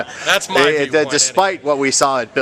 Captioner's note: laughter